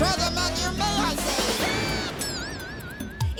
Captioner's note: screaming